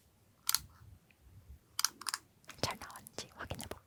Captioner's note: click, click